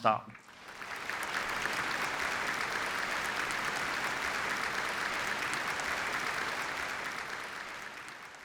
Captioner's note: applause